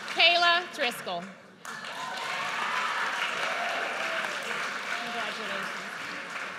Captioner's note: audience cheers